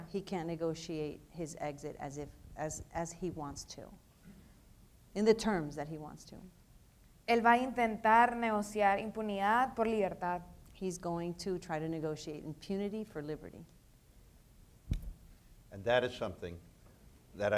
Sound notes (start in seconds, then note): 7.7 speaking in foreign language